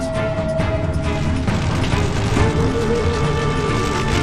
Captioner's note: flames crackle